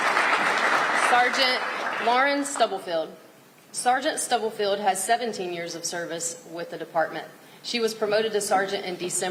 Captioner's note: applause